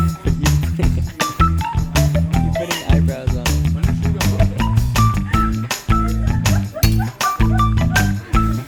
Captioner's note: laughs